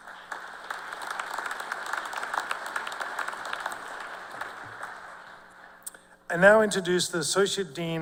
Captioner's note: cheers and applause